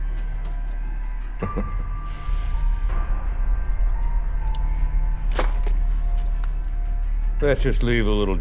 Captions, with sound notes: (chuckles) - Let's just leave the little darling to her memories.